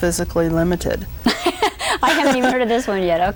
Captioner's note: laughs